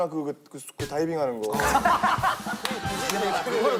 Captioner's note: laughing